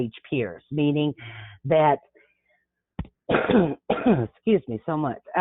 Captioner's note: coughs